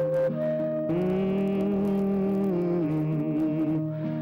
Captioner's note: humming